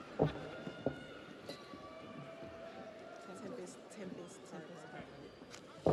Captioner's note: audience cheers